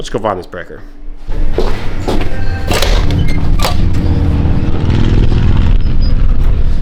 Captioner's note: engine Revving